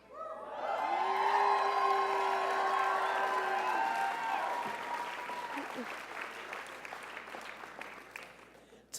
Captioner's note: sounds of crowd cheering